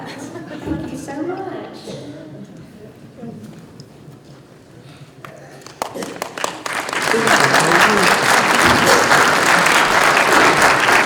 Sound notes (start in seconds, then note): 5.5 applause